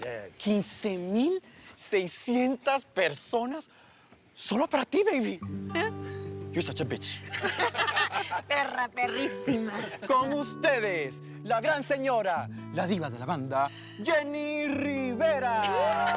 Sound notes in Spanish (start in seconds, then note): 7.2 Risas